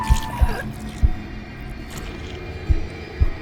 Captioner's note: heart beating; Julie gasps